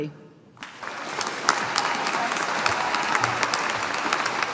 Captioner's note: audience applauding